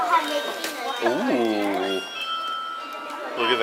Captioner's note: bells ringing